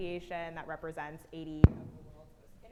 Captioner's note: faintly speaking